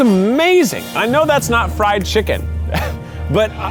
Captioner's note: laughs